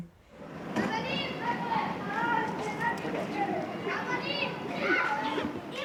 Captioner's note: children speaking in foreign language